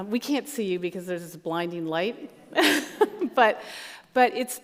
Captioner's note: laughs